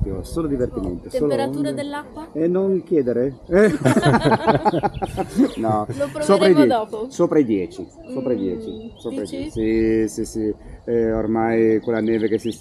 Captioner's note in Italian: Risate